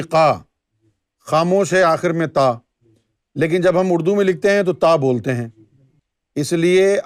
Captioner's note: in Arabic